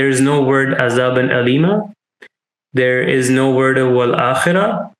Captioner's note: speaking in Arabic